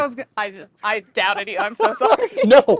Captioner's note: laughs